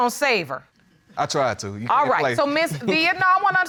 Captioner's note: chuckles